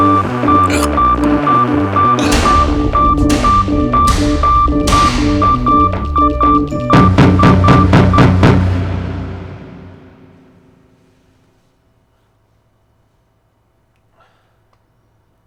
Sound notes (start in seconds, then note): 6.9 loud pounding